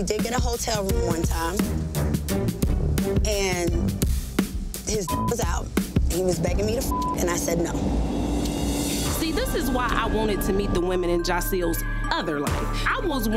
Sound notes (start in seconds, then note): 5.0 beep; 8.3 dramatic music